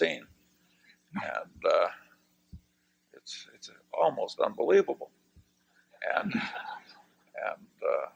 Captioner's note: laughter